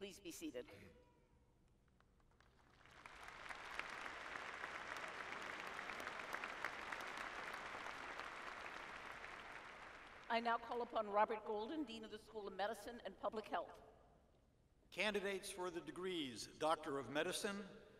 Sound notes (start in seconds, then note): 2.2 applause